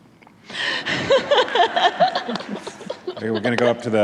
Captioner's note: laughter